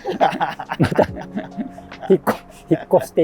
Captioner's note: laughing